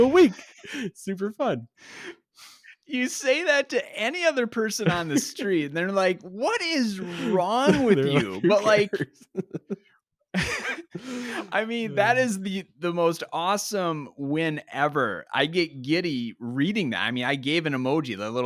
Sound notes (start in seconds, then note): 0.0 laughs; 4.7 laughs; 9.3 laughs